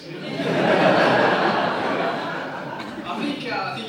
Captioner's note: audience laughs